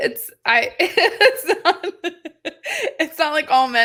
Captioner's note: laughing